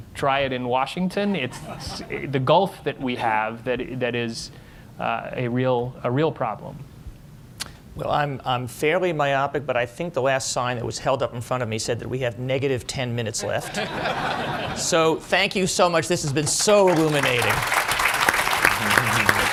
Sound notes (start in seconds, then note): 13.4 laughter; 18.0 applause